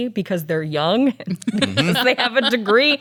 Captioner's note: laughs